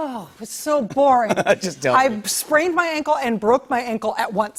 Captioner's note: chuckles